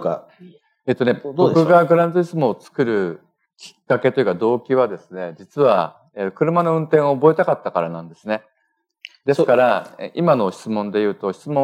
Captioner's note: speaking japanese